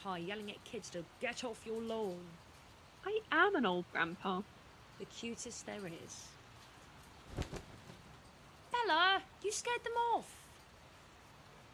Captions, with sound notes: yelling at kids to ‘get off your lawn.’ BELLA I am an old grandpa. NYX The cutest there is. [FLUTTERING WINGS.] NYX Bella, you scared them off!